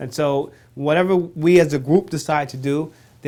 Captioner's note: none